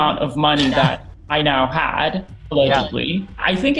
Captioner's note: laughing